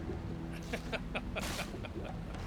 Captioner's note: laughter